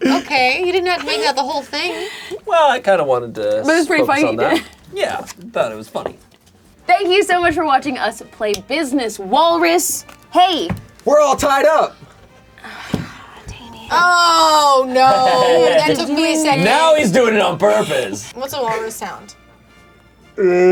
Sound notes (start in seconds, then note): 12.5 sighs; 20.4 mimic walrus howling